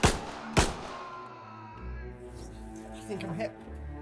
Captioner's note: shots fired; agonized screaming